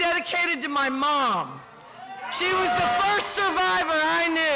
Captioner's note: cheering